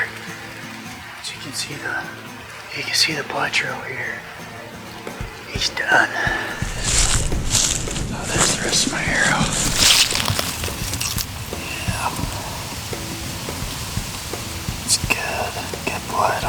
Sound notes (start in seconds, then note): 13.4 whispering